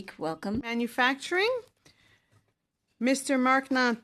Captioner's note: speaking in French